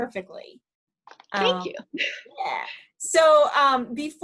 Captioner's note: laughs